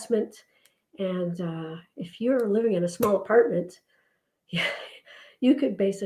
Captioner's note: sighs